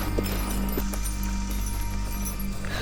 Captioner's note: groans